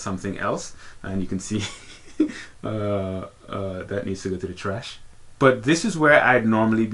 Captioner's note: laughs